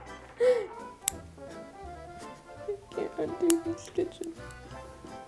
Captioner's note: laughs; scissors snipping; cries